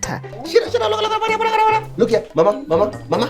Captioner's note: playful sounds